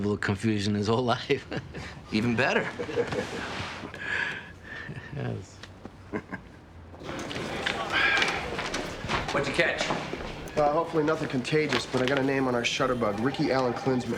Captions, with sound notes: had the same level of confusion his whole life. - Even better. - (laughs) You know, it's... - (laughs) - What'd you catch? - Well, hopefully nothing contagious, but I got a name on our shutterbug.